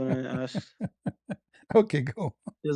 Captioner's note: ketawa